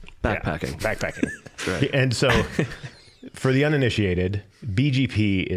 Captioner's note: all laughing